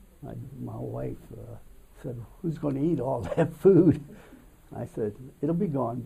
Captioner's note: laughs